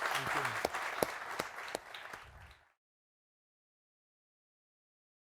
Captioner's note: audience applauding